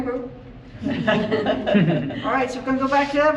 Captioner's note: polite chuckles